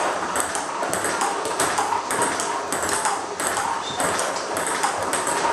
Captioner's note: ball ping pong hitting continues